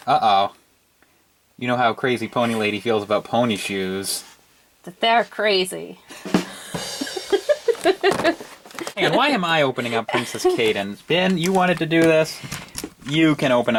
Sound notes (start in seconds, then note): 6.4 laughs